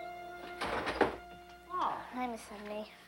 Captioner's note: door thuds shut